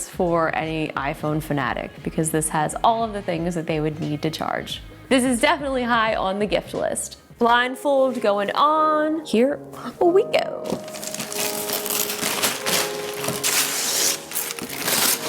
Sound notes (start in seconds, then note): 8.7 whimsical music; 10.6 wrapper crinkling